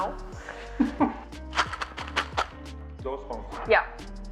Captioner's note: laughing